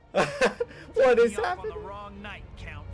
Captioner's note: laughs